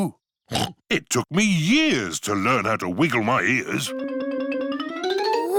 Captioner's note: snorts